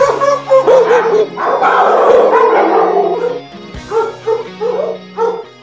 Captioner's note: dogs Barking